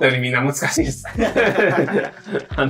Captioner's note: laughing